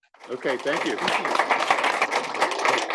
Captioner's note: applause